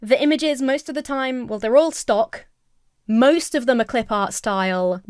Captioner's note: none